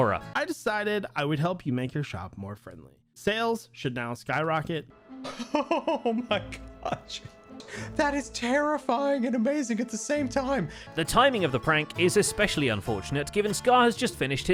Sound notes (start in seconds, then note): 5.2 astonished laughter